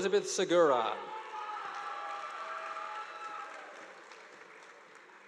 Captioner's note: audience applauding